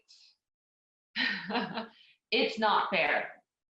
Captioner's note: laughs